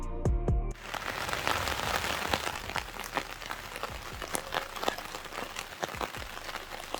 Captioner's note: rain splashes